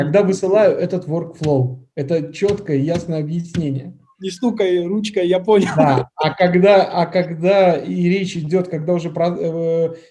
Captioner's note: laughs